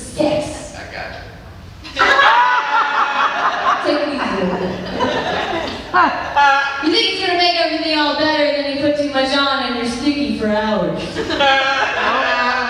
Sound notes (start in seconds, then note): 0.2 laughter; 5.2 laughter